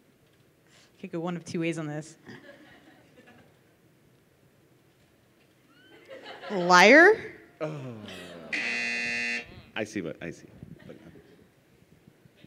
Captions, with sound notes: - I could go one of two ways on this. Liar? (buzzer) - I see what, I see.